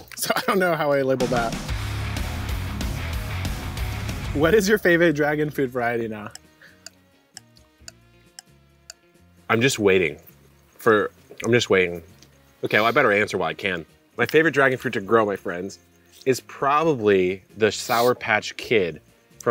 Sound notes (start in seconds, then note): 1.0 rock upbeat music; 6.2 clock ticking